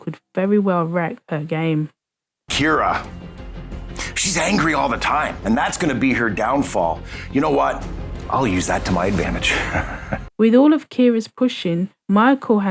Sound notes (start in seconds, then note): 9.2 laughing